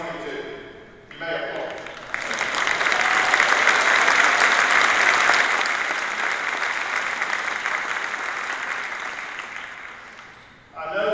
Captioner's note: applause